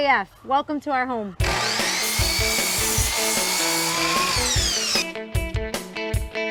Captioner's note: electric saw buzzes